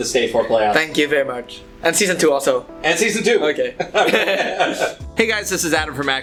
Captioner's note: haha